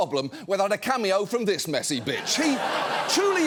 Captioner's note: audience laughing